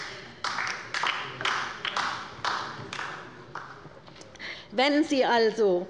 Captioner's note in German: Beifall bei der LINKEN